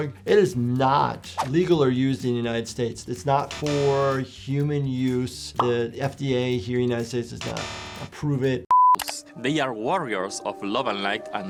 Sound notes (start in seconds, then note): 7.4 screen beeping